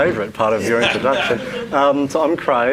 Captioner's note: laughs